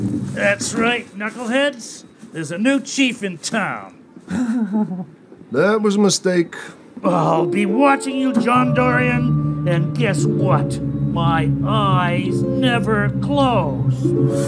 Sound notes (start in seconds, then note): 4.3 weak laughter; 14.2 dramatic sting